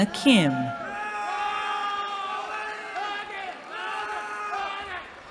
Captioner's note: cheering